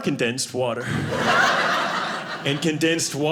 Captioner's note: audience laughing